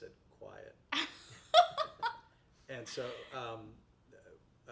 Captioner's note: laughs